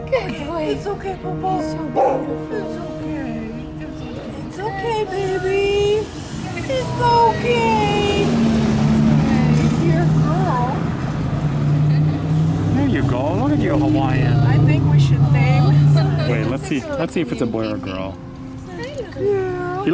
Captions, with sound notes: Good boy. It's okay boo boo. You're so beautiful. It's okay. It's okay baby. Good boy. Good boy. It's okay. That's a good boy. If you're a girl... [Laughter] There you go, look at you Hawaiian. I think we should name him. Aw, such a good baby. Wait let's see, let's see if it's a boy or a girl. Hi little... Girl.